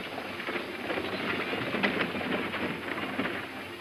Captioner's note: door rattles